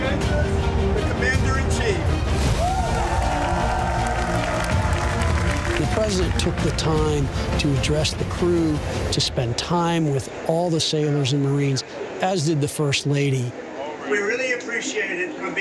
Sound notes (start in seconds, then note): 2.9 applause